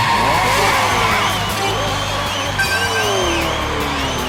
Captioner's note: game audio